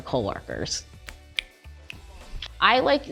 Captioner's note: fingers snap